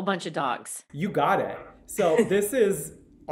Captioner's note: chuckles